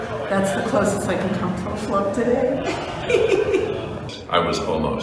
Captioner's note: laughs